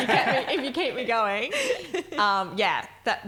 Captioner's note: laughing